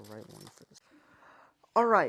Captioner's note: aggressively intakes air